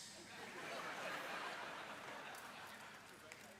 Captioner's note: laughter